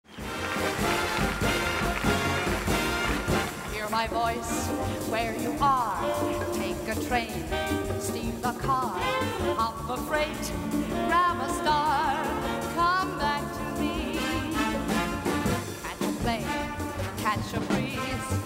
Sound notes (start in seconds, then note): 0.0 audience applauding; 0.8 cheerful music